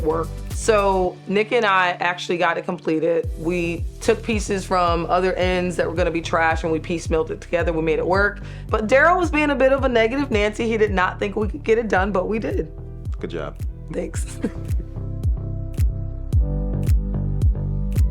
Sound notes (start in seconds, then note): 14.2 chuckling; 14.8 upbeat music